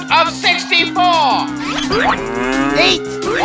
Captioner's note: students cheering; cow moos